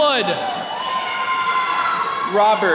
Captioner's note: attendees cheering